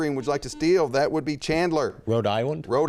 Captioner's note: buzzer chimes